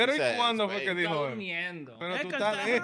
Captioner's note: speaking In Foreign Language